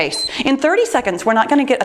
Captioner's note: timer beeps